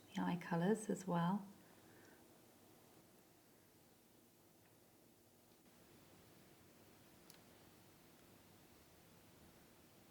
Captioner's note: silence